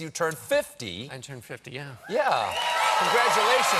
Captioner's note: applause